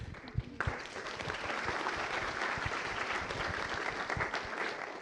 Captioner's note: applause